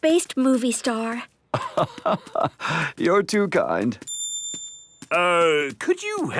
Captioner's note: laugh